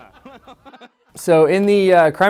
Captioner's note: laughing